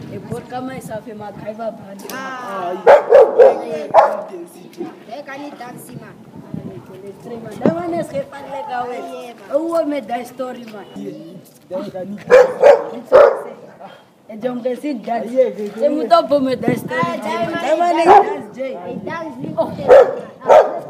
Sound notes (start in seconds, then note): 12.2 dog Bark; 13.7 scoffs; 19.8 dog bark